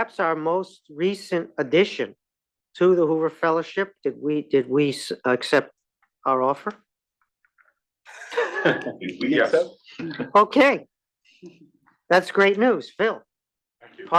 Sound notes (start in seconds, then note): 8.1 laugh